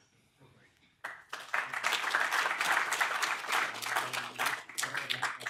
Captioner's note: audience claps